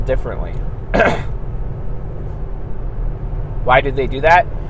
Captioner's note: clears throat